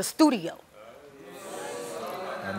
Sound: audience oohing

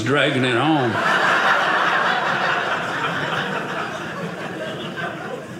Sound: audience laughing

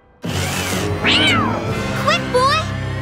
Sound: meowing

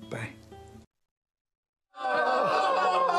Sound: cast screaming

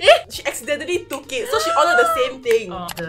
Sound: exclaims

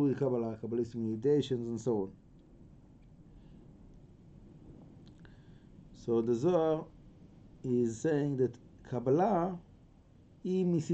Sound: aramaic

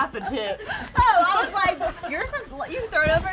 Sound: laughing

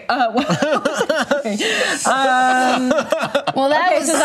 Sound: laughter

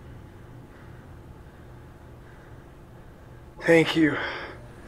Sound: heavy breathing

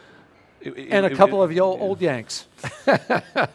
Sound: laughing

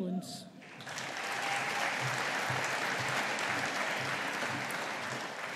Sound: audience applauding

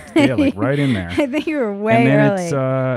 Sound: laughing

